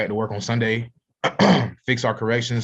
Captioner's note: clears throat